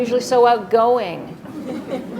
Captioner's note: laughter